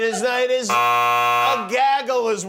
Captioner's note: buzz